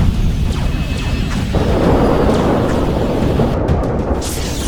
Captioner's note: cannons blasting